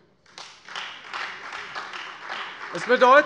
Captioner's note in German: Beifall